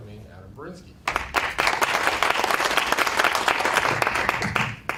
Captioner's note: applause